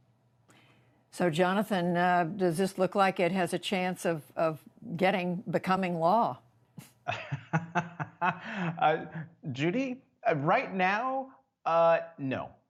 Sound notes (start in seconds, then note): 6.8 laughter